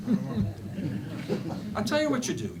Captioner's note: laughter